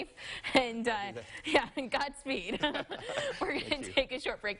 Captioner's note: chuckling